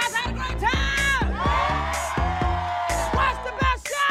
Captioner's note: cheering, applause